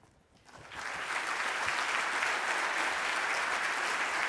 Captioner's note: audience clapping